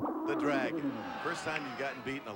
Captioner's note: dragon roars